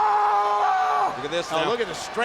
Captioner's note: Big Show screaming